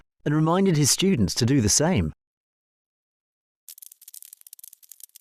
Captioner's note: low titter